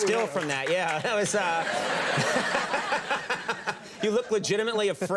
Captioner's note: Audience and Conan laughing